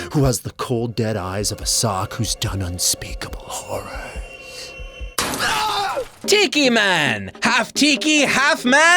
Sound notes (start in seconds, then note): 5.2 crash; 5.3 man screams